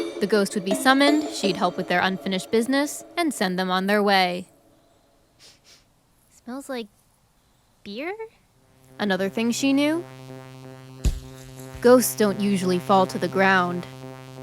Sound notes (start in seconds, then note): 5.4 sniffs; 11.0 thump